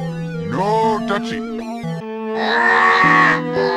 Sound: in a deeper tone; in a really deeply slowed tone

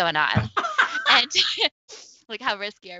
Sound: laughs

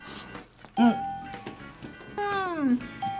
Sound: bell rings

